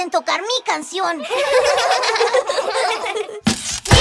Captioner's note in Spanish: Risas